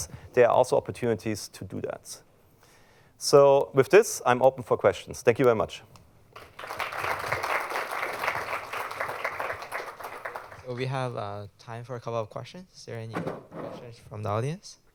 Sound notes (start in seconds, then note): 6.3 applause